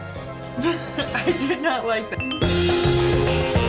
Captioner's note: laughing; upbeat music